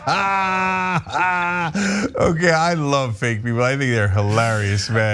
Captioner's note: laugh